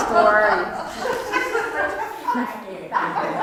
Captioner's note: laugh